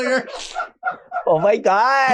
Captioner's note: camera staff laughing